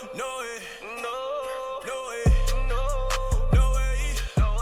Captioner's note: rap music; Robert coughing; rap music